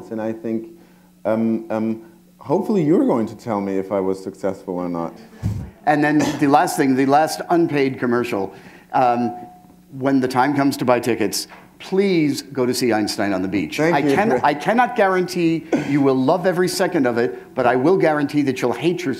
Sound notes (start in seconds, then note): 5.5 chuckle